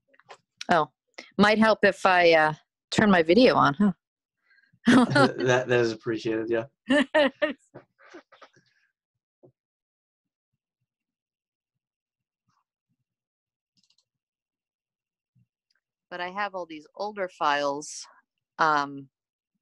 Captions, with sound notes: Might help if I turn my video on. Okay. (laughs) - That is appreciated. Yeah. - But I have all these older files.